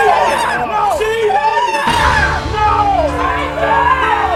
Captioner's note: woman cries